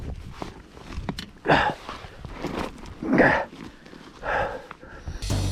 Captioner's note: grunting loudly